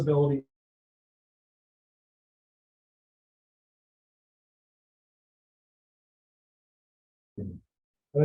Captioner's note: audio drop